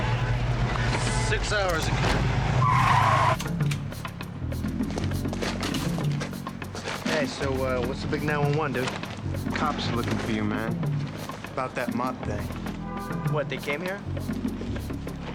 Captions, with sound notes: - Time? - Six hours. (tires screeching) - Hey, so what's the big 911, dude? - The cops are looking for you, man. About that Mott thing. - What, they came here?